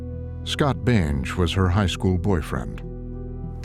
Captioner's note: none